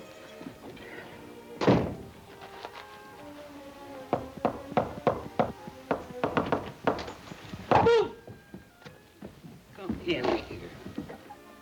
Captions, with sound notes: (door thuds) (gentle music) (door knocking) (Ollie grunts) Come in here.